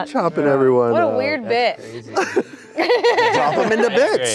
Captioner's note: laughing